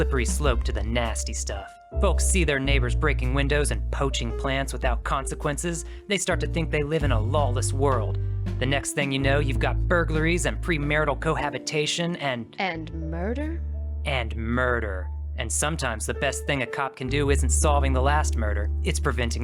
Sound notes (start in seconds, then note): none